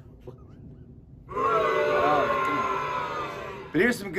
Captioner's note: crowd booing